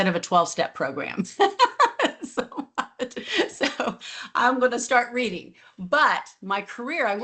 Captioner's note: laughs